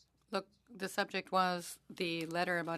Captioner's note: speaking French